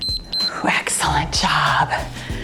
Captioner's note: timer beeps